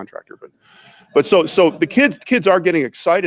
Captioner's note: audience laughs